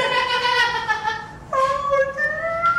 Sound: dolphin squeaking; laughing

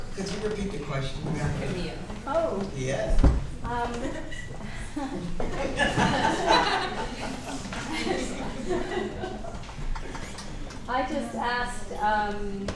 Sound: laughing

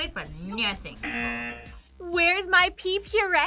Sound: buzzer

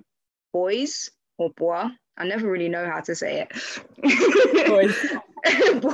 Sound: laughs

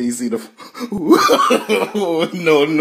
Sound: laughs

